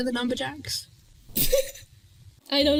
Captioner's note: laughs